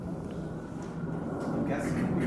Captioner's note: airplane engine whooshing in the distance